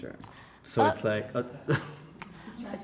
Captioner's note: laughs